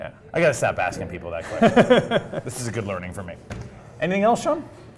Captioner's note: laugh